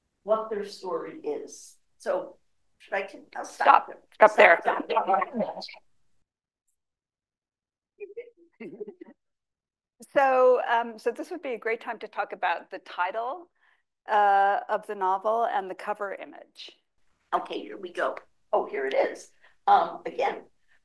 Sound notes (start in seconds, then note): 4.7 laughs; 8.6 laughs